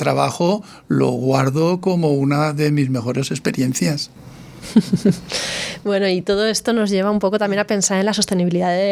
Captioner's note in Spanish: risas